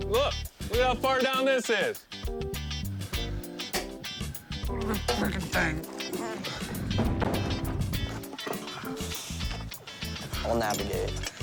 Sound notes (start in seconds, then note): 4.7 groaning